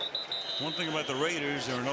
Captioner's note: whistle